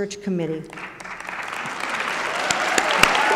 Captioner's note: applause